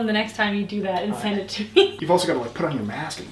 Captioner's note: chuckles